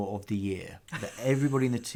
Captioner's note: laughs